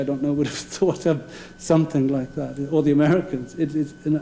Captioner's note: laughing